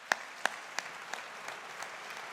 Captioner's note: audience applauding